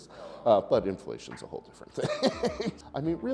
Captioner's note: chuckles